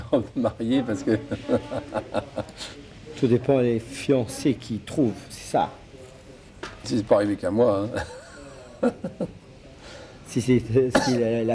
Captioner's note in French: rires